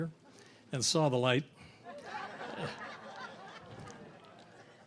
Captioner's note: audience laughs